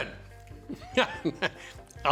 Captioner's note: laughs